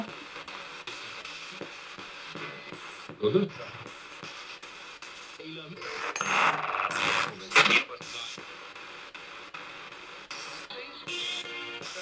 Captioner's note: sound of the Spirit Box in the background